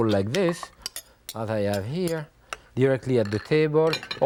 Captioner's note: spoon scraping